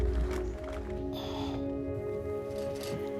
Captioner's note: sighing